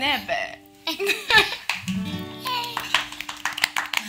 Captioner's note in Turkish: Gülüyorlar